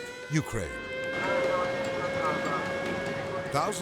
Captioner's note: siren blaring